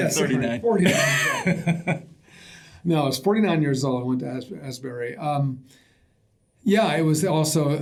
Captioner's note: laughter